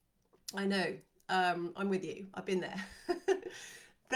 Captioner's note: chuckles